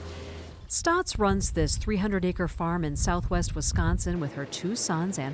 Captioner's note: voice-over